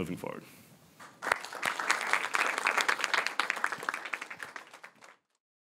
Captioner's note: audience applauding